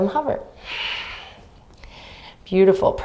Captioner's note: exhaling deeply